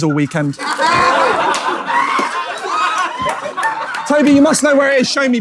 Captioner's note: people in room laughing and shrieking